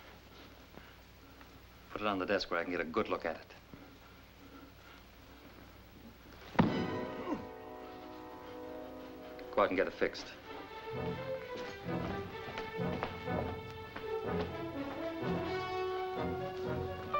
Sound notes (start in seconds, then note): 5.5 grunts; 6.5 thump